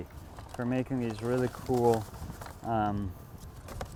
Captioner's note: paper rustles